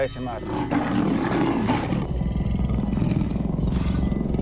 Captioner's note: roaring; growling